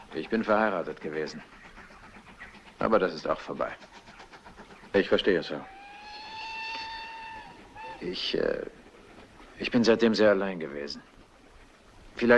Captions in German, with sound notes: Ich war einmal verheiratet, wissen Sie. - Das ist jetzt alles vorbei. - Tut mir leid. [Zugpfeife ertönt] Ich, äh... Seitdem bin ich ziemlich einsam.